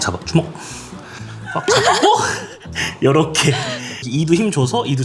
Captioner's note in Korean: 웃참실패